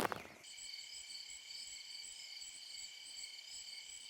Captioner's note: crickets chirping